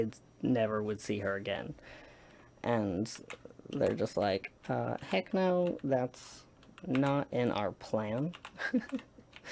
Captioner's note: laughs